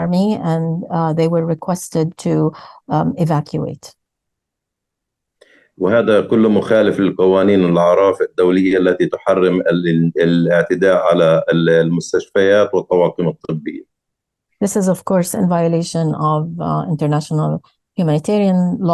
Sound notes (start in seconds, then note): 5.7 speaking arabic